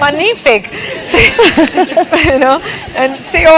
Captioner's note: laugh